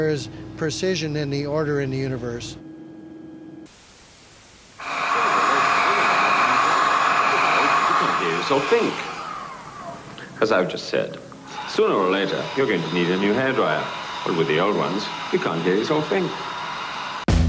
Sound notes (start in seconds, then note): 4.8 loud humming engine; 5.0 man talking